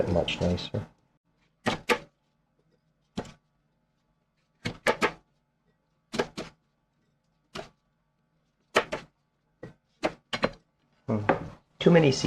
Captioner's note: knife cutting